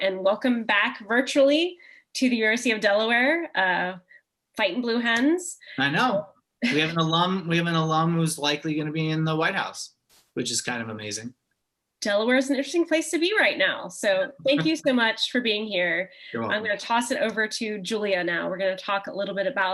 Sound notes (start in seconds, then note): 6.7 chuckle